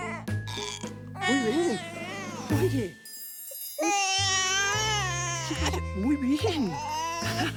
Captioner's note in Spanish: Eructo del bebé; Llanto del bebé